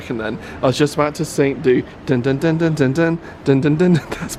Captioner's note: hums